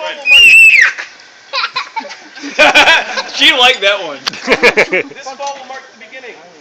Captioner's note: child laughing